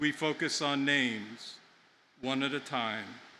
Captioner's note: none